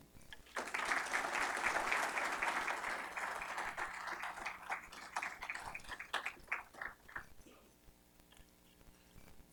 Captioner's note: applause